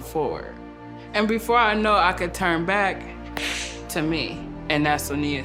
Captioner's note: clap